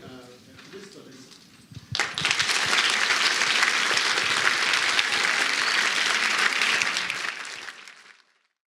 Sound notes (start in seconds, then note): 1.9 applause